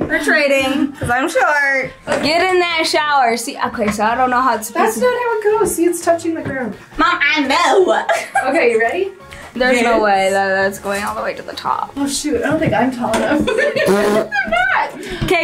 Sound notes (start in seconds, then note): 7.8 laughing; 13.3 all laughing